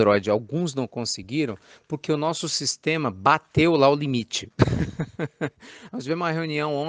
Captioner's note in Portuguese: risos